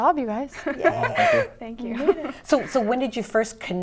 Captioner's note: laughter